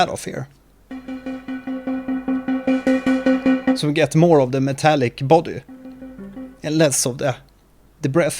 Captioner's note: filtered granular sound